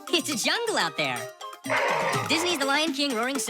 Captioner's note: lion roaring